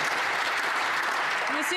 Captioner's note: some Applause